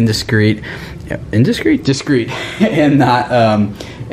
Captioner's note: laughs